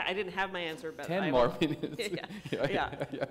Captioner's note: laughter